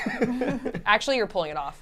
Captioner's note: laughs